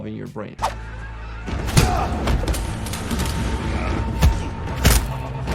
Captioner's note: fighting and grunting